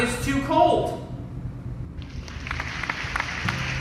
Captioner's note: applause